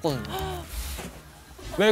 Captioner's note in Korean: 스-윽